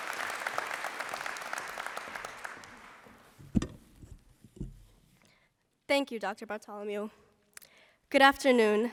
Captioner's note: applause